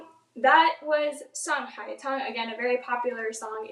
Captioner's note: speaks in foreign language